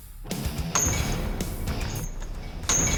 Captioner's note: clanking